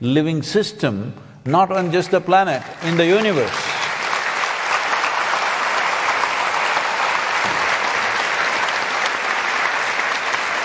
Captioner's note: applause